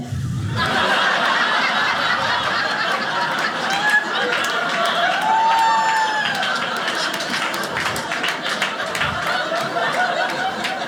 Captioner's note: audience laughing